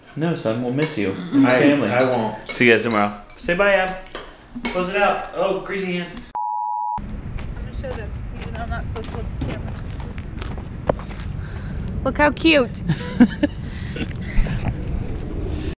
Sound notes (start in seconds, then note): 6.3 beep; 12.8 laughing